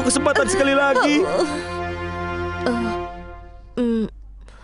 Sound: Choco groans

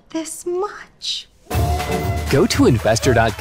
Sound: group cheering

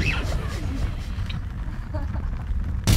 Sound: crowd snickering

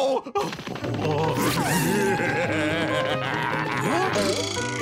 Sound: Plankton laughing

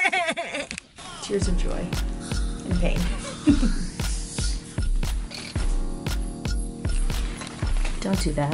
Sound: chuckles

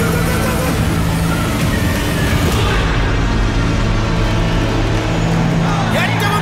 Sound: crowd Cheering

